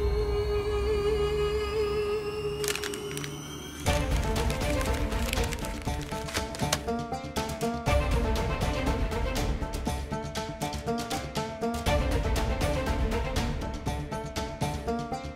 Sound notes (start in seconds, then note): 3.7 paper rustling